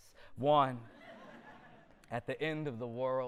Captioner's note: audience laughter